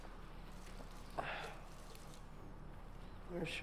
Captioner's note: sighs